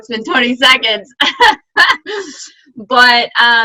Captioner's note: laughs